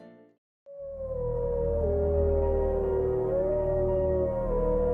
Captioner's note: mellow guitar music; wolves howling